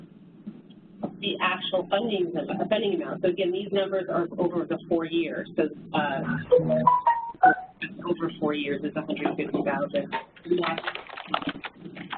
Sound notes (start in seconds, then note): 6.2 loud electronic chime; 11.9 noisy clacking